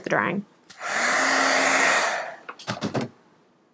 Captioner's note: air blows